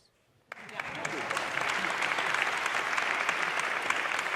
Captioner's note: audience applauding